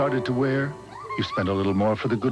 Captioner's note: kids throwing snowballs, yelling playfully